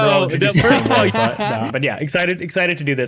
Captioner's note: laughing